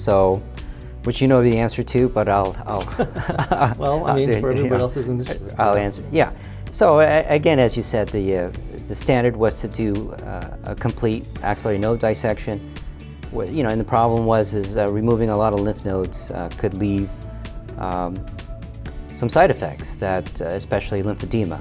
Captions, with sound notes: Which you know the answer to, but I'll- (both laugh) - Well, I mean, for everybody else's interest. - I'll answer, yeah. So again, as you said, the standard was to do a complete axillary node dissection. And the problem was is removing a lotta lymph nodes could leave some side effects, especially lymphedema.